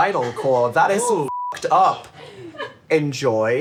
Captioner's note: beep